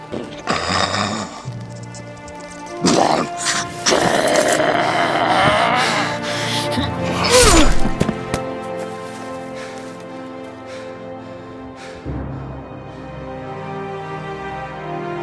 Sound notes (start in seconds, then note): 0.0 orc grunting; 7.2 Akosh grunts; 9.4 panting